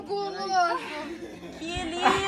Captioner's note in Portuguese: risadas